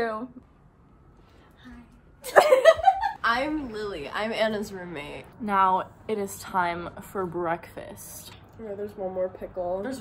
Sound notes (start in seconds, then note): 2.5 laugh